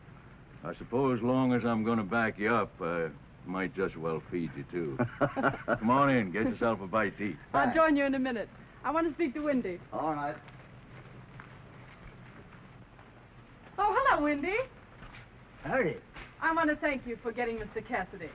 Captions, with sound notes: I suppose as long as I'm gonna back you up I might just well feed you too. [ HOPPY CHUCKLES ] Come on in, get yourself a bite to eat. I'll join you in a minute, I want to speak to Windy. All right. - Oh hello, Windy! - Howdy! I want to thank you for getting us to Cassidy.